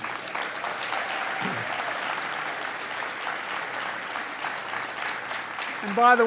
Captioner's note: applause